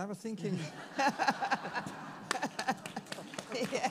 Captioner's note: all laugh; all applaud